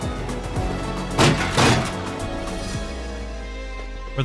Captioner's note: crunk smash